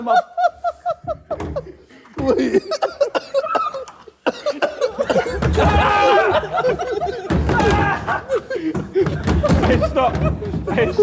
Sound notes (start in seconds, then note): 0.3 Sidemen laughing; 5.8 Harry yelling